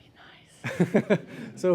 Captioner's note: laugh